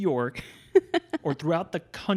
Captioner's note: laughs